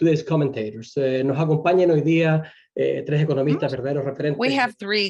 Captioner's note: speaking in foreign language